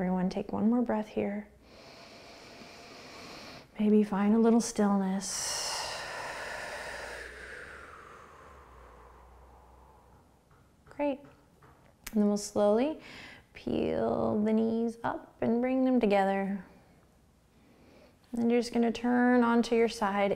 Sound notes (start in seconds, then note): 1.6 inhaling; 5.2 exhaling